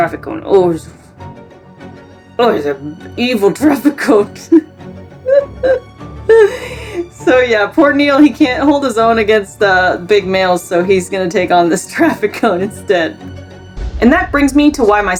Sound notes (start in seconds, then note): 4.4 background music; 5.2 laughs; 13.3 background music